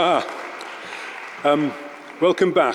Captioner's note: audience applauding